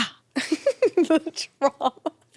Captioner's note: chuckles